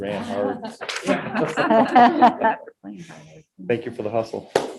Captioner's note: group laughing